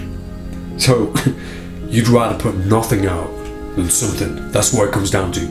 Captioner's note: laughs